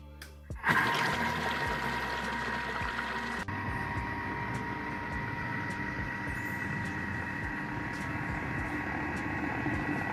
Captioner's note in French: bruit thermomix